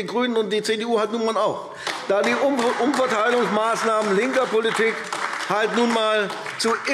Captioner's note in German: Beifall AfD